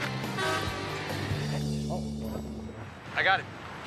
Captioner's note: car horn honks